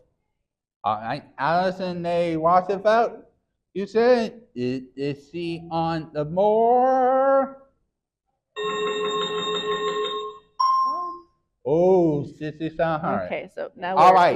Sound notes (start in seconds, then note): 8.6 chiming sound effect